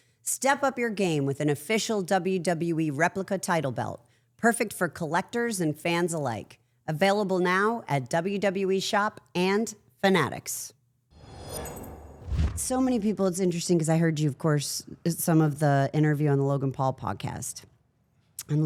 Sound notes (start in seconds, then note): 11.2 logo whooshing